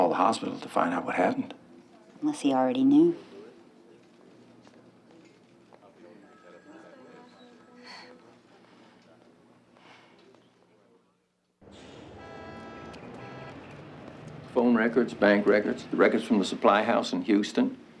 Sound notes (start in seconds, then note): 6.9 office workers chattering; 6.9 phone ringing; 11.6 horn honking